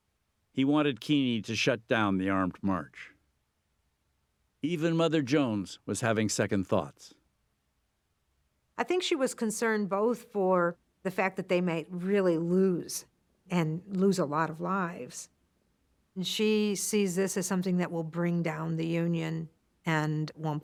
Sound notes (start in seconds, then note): none